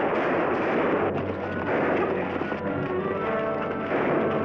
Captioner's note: gunshots bang